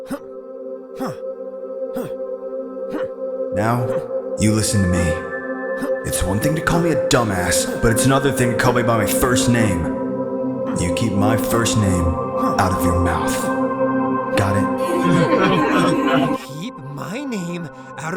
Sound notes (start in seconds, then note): 14.4 laughing